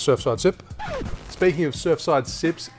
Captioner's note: record scratching